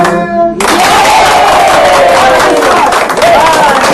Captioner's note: applauding, cheering